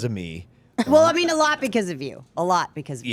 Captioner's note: laughs